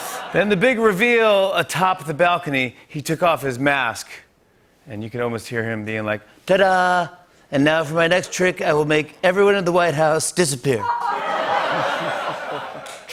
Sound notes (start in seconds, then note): 0.0 laughter; 6.0 As Trump; 11.0 laughter